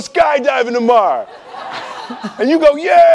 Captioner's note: laughing